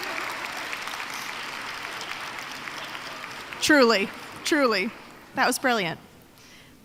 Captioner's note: applause